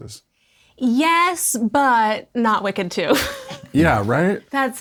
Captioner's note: chuckles